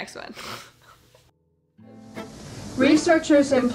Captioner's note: chuckling